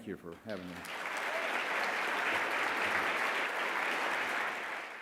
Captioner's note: crowd applauds